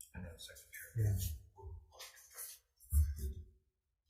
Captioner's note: man talks faintly